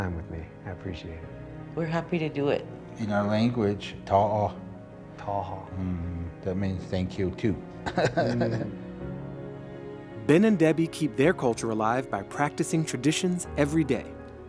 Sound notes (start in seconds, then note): 3.7 speaks foreign language; 4.7 Baratunde speaks foreign language; 7.8 chuckles